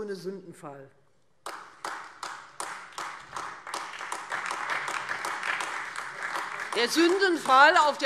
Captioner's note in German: Beifall Freie Demokraten und AfD